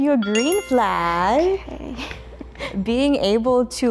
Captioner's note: bell dings